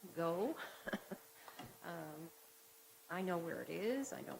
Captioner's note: laughing